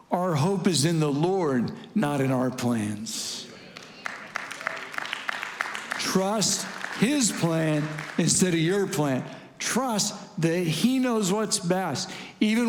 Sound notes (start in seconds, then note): 3.3 congregants affirming and clapping